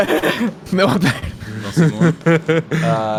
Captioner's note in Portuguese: risos